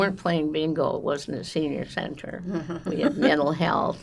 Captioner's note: laughing